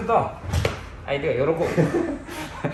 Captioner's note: laughs